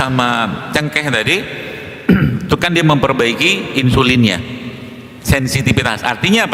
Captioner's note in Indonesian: berdehem